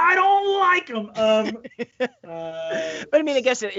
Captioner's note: laughing